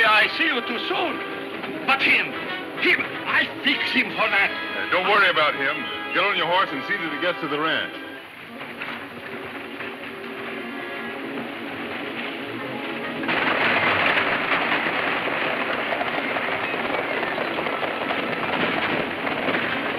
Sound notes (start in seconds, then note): 11.6 horses galloping